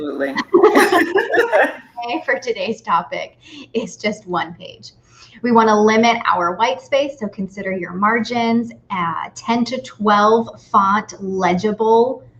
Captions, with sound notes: - Absolutely. (both laughs) And for today's topic is just one page. We wanna limit our white space. So consider your margins at 10 to 12 font legible font.